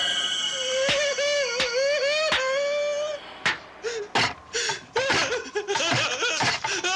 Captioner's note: Casey clapping; Casey crying